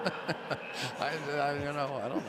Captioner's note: laughter